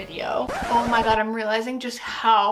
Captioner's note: record scratches